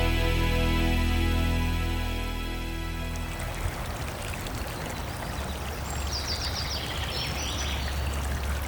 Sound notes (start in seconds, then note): 2.9 water running; 4.6 birds singing